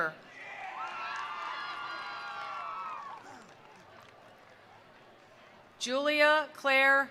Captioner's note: attendees cheering; attendees applauding